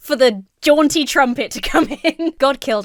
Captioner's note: laughs